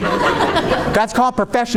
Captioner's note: audience laughing